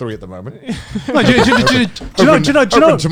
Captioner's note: laughs